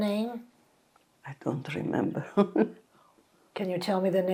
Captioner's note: laughing